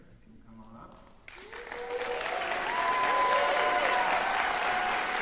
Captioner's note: cheering, applause